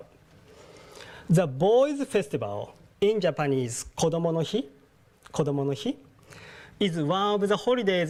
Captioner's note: speaking japanese